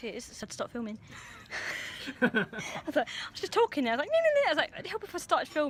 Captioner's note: both laugh